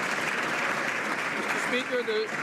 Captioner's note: some Applause